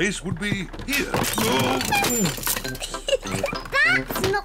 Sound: oinks; giggles

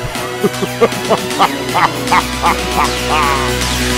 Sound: evil laughing

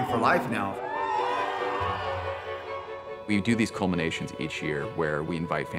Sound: audience cheers

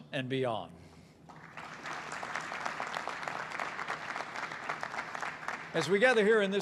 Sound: applause

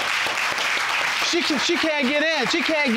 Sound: audience applauding

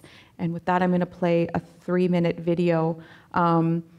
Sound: none

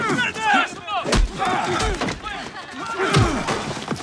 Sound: shouting

